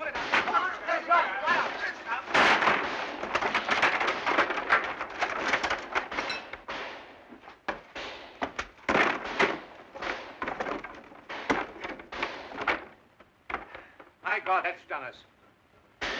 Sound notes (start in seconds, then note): 0.0 commotion; 2.4 frame crashing; 3.4 boards clattering; 7.7 gunfire outside; 16.0 gunshots